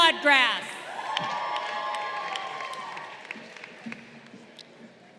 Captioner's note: crowd cheering